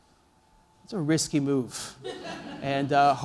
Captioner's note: laughter